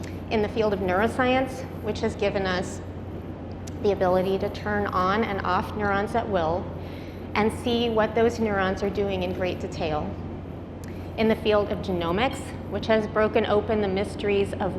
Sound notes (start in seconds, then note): none